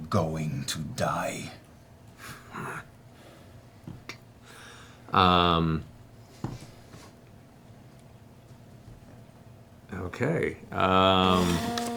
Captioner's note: chuckles